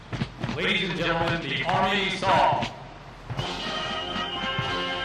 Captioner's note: voiceover